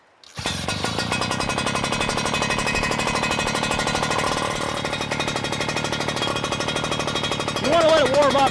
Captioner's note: sound of pump running